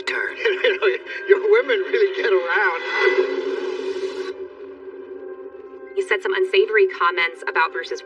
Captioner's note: chuhuckcklingng